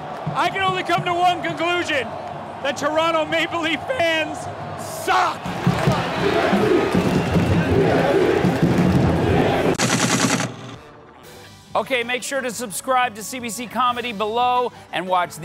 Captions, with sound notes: I can only come to one conclusion: That Toronto Maple Leaf fans suck! [Crowd chanting] TFC! TFC! TFC! TFC!